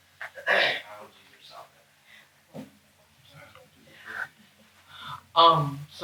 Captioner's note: interviewers chatter